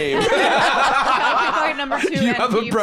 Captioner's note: all laughing